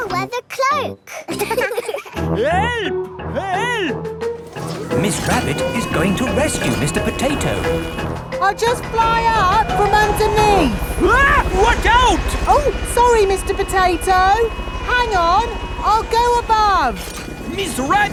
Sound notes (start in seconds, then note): 1.1 laughing; 11.4 screams